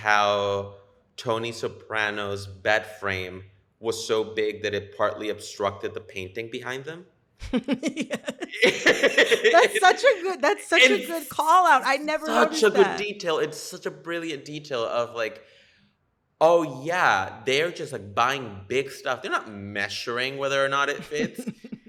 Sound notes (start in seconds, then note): 7.5 laughter